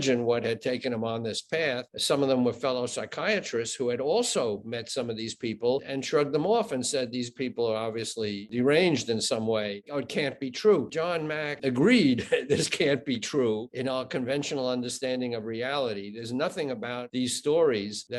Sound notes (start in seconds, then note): 12.0 chuckling